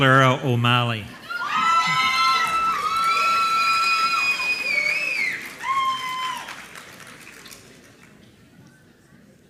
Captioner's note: applause